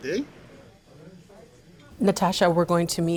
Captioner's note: people chattering